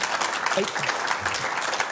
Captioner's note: applause